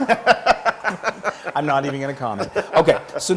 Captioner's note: laugh